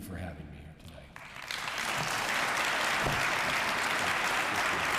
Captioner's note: audience applauding